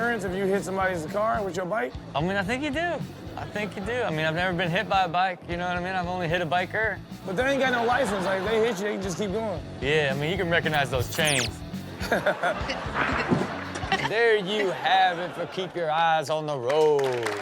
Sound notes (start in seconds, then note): 12.2 everyone laughs